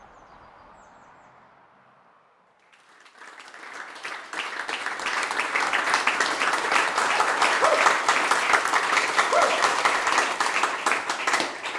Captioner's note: audience applause. Chapter 2